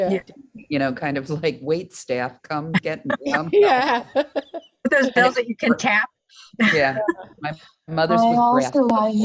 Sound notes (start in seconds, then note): 2.8 laughs; 8.2 using Speech output